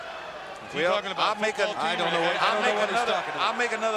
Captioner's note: group chattering